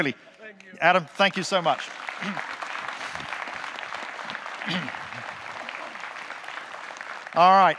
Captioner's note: audience clapping